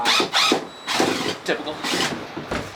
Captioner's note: tool whirring